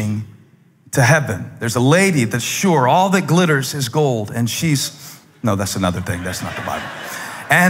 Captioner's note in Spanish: Risas